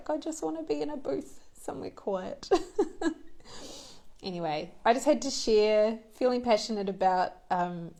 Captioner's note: laughs